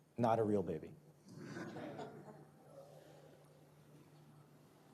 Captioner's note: audience laughs